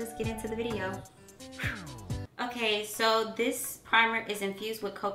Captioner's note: imitates wind